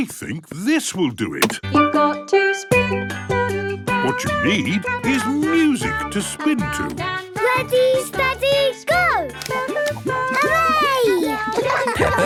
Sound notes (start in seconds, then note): 2.3 radio